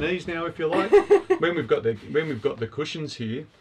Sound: laughs

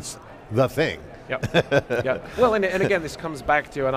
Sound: chuckles

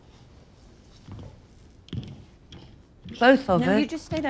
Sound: footsteps plodding

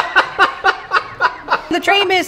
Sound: laughing

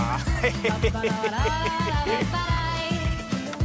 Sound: laughs

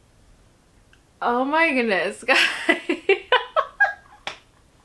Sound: laugh

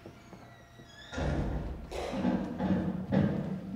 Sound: banging

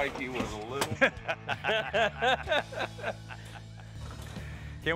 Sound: all laughing

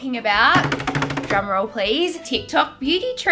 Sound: table tapping

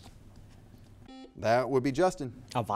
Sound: buzzer beeping

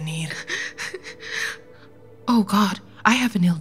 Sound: Juliet crying

